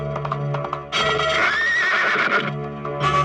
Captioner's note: horse neighing